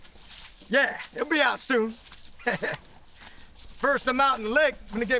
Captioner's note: chuckles